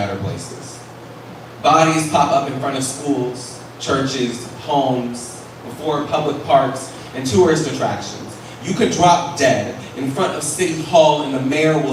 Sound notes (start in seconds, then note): none